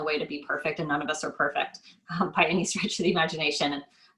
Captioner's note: laughs